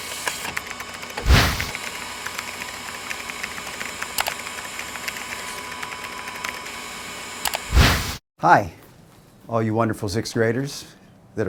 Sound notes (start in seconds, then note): 0.1 keyboard clacks; 4.4 mouse clicks; 7.7 wind whooshes